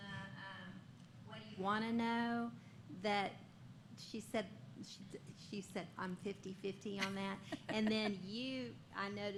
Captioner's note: laughter